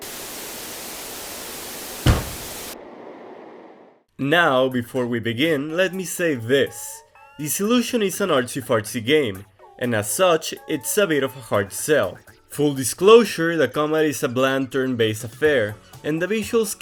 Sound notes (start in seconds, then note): 0.0 TV static; 2.0 thud